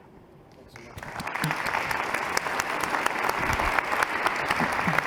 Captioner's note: applause